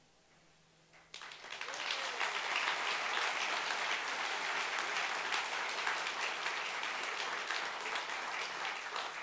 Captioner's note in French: Applaudissements